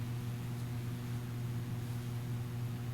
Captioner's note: none